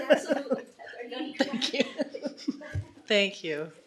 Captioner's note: laughter